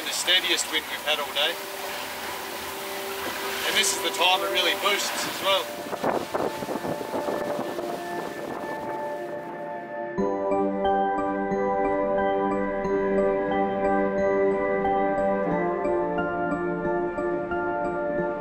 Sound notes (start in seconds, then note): 6.2 wind gusting; 10.3 optimistic music